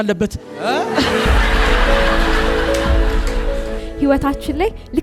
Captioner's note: laughter